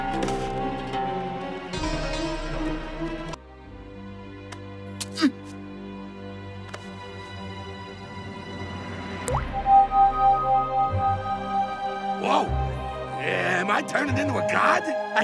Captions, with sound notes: (Elfo grunts) (drop pings) (gem hums) - Whoa, am I turning into a god?